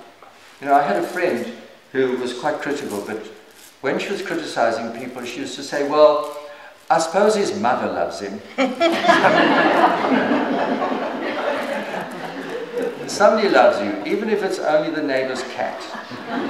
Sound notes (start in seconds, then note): 8.5 śmiech